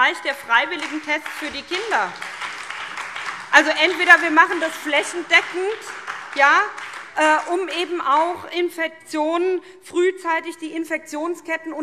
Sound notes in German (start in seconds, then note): 4.2 Beifall SPD